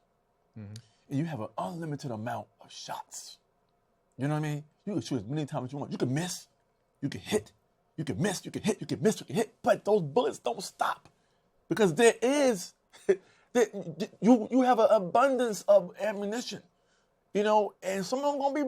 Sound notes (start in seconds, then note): 13.6 laughs